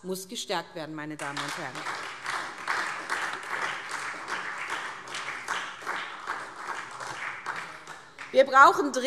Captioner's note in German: Beifall SPD